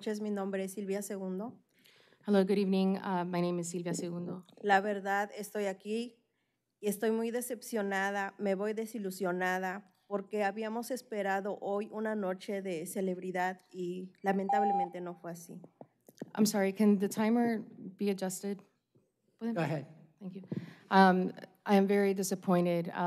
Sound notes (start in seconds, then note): 4.1 speaking spanish